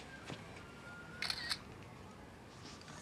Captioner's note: shutter clicks